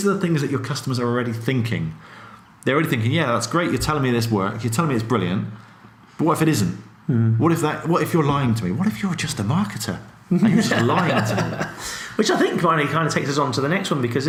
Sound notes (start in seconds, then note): 10.4 laughs